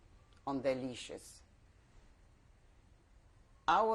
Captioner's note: pauses for 3 seconds